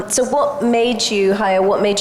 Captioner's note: none